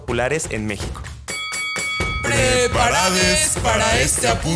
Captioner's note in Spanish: Hablan con voz de presentador de luchas